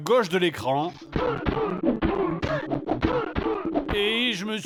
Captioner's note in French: bruits de baston et de douleurs